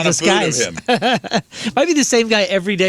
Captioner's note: laughing